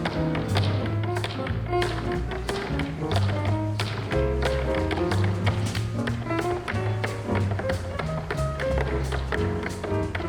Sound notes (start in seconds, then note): 0.0 shoes tapping; 0.0 upbeat jazz music